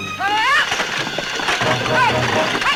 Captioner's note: Ellen shouts; exciting music